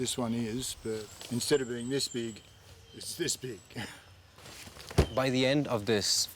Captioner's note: chuckles